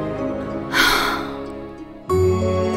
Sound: sighs

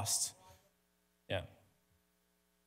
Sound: speaks faintly

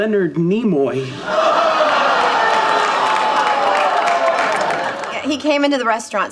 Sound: audience cheering; audience applauding

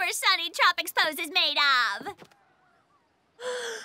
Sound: inhales

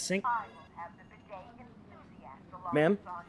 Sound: woman on phone

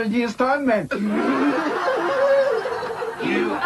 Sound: laughter

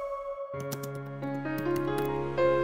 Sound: computer keys clanking

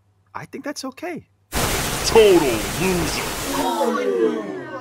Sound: flamethrowers

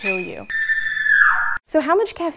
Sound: screaming

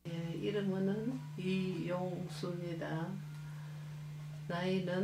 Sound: speaking foreign language

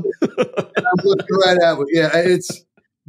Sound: laughing

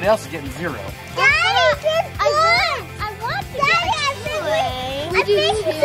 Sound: overlapping chatter

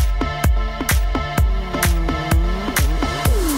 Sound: chainsaw roars

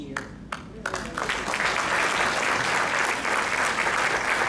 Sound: crowd clapping

